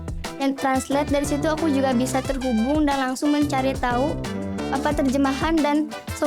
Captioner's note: speaking in Indonesian